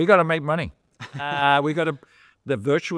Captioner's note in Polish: śmiech